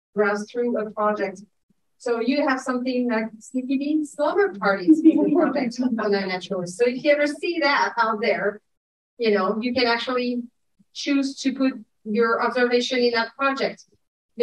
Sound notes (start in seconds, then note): 4.8 audience chuckling